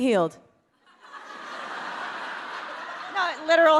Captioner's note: audience laughing